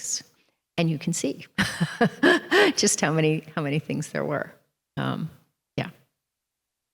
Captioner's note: chuckles